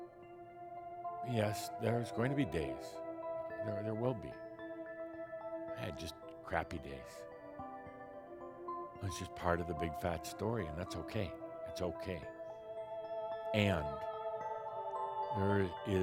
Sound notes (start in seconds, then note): none